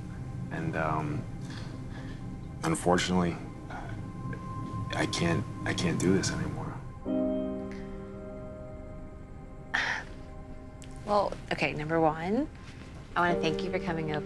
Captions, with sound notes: And, um, unfortunately, uh... I can't--I can't do this anymore. [somber music] - [sighs] Well--okay, number one--I wanna thank you for coming over